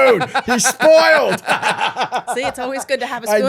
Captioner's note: laughing